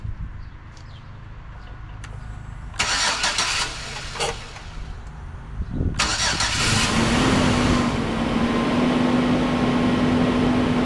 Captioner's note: engine Starts